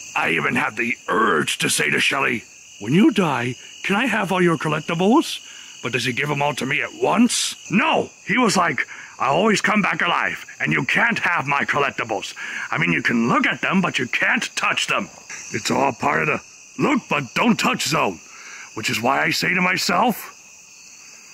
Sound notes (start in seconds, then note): none